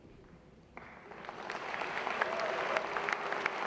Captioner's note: applause